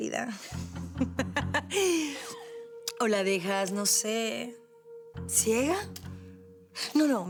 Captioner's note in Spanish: Risas